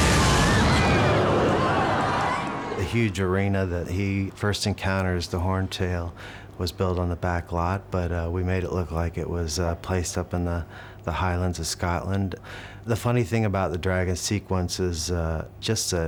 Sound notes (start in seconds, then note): 0.0 crowd screams